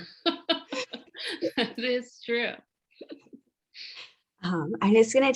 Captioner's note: laughs